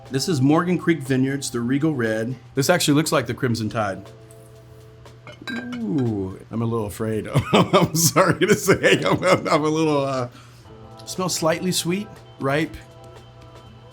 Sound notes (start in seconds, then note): 7.3 laughs